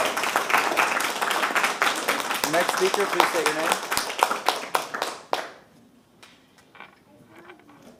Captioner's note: applause